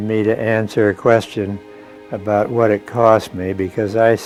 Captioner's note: birds chirping; solemn music